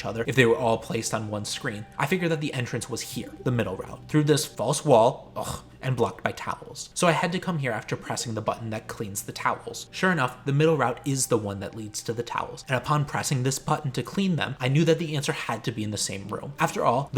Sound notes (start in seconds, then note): 5.3 ugh